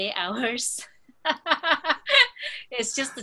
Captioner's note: laughs